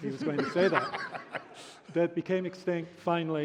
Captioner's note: laughter